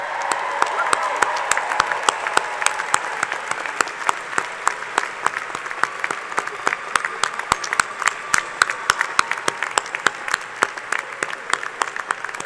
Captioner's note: cheers and applause